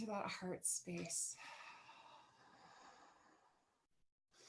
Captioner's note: sighs